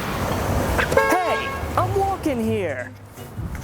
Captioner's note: car horn